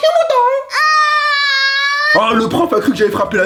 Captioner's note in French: pleure